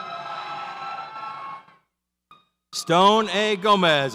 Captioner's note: audience cheers